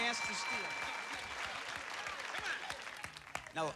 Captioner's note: applause